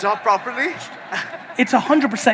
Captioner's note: audience laughing